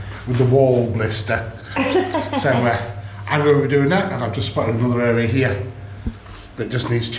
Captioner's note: laughter